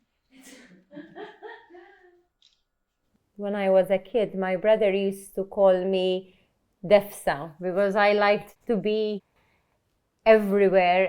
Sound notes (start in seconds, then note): 0.4 laughs; 1.1 shutter clicks